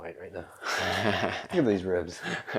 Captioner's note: laughs